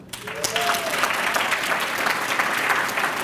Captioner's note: applause